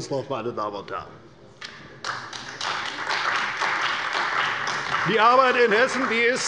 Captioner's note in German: Beifall bei der CDU und dem BÜNDNIS 90/DIE GRÜNEN